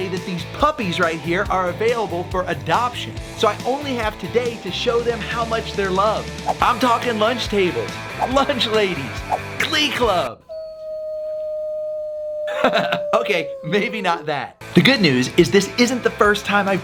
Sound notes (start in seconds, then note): 10.4 dog howls; 12.4 laughs